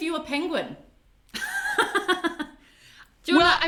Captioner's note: laughs